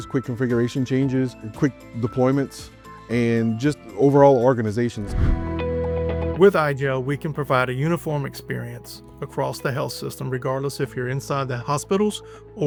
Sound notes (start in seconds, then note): 5.0 transition whooshing